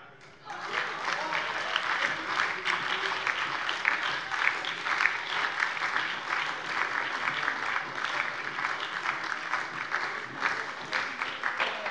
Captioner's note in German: Lebhafter Beifall bei der SPD und der LINKEN